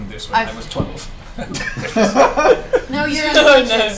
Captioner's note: all laugh